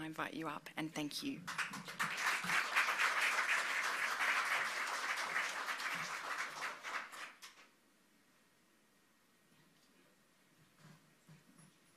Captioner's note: applause